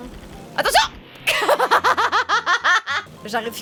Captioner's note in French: rire machiavélique